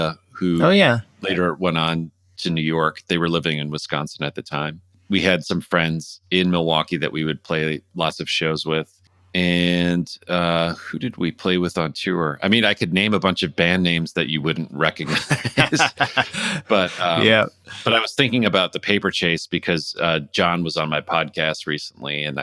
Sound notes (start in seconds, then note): 15.0 laughter